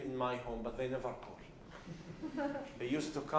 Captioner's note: laughs